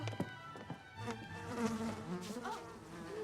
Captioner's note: buzzing